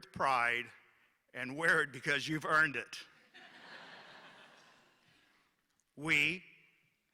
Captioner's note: laughter